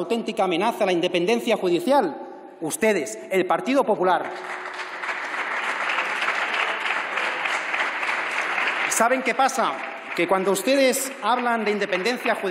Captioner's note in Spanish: Aplausos